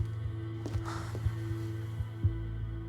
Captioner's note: sighs